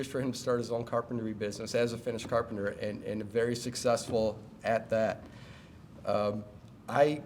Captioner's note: none